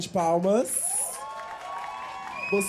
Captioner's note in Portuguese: aplausos